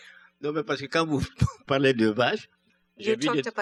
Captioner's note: speaking french